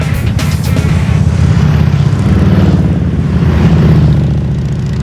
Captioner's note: motorcycle engine revving